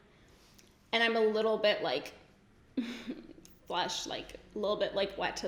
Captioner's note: giggles